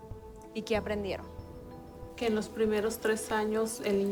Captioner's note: woman speaking spanish